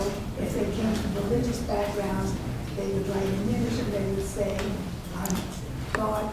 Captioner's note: coughing over speaker